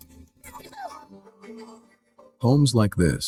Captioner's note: baby laughing